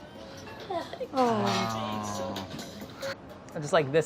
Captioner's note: both groan